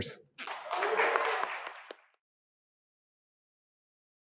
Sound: audience clapping

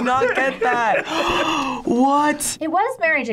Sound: gasping

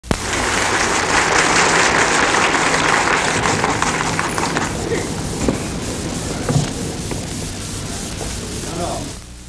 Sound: audience clapping

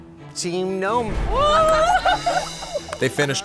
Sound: exclaims

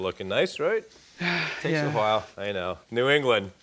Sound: sighs

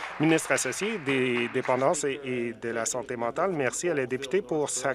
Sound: applause

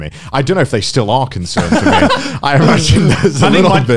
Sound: laughing loudly

